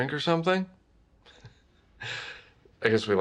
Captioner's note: laughs